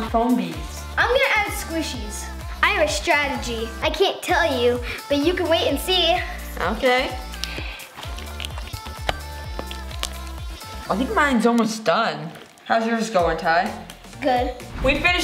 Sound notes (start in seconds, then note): 7.9 squishing